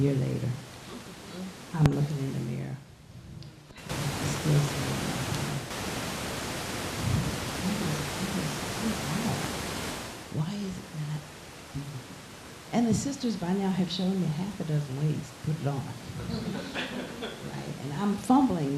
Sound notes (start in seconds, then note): 4.1 static hissing loudly; 16.2 laughing